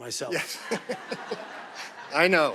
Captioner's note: audience laughing